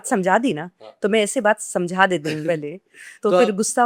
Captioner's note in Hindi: गला साफ़ करने की आवाज़